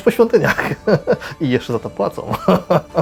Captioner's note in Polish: śmiech